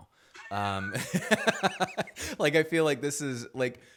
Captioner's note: laughs